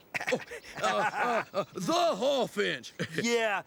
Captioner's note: Stinky laughing